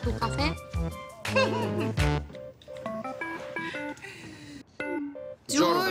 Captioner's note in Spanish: Risas